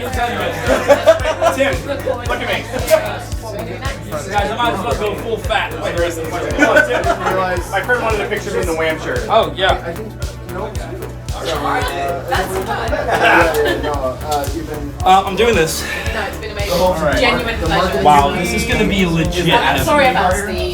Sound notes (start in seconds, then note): 0.0 group laughing; 3.0 group chattering